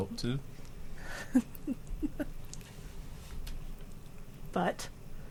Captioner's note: chuckling